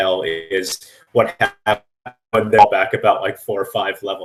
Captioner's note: static